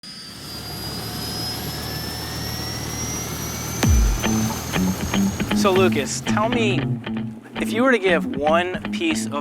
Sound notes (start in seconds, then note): 0.0 whirring helicopter; 3.8 upbeat music